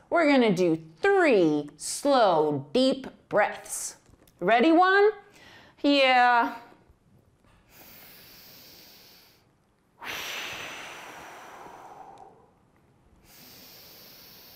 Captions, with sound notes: We're gonna do 3 slow deep breaths. Ready One? - Yeah (deep breathing)